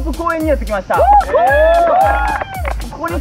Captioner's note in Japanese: 拍手